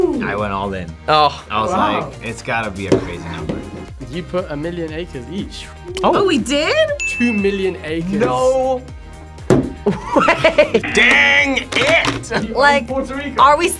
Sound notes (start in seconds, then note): 9.9 laughs; 11.9 buzzer